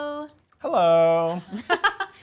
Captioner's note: laughing